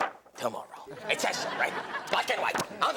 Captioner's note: audience laughs